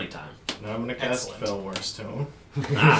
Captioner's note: all laugh